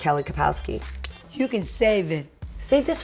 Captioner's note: clicks tongue